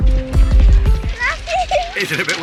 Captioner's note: laughs